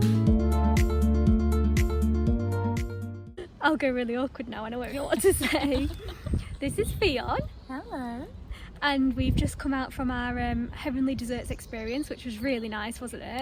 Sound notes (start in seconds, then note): 5.0 laughs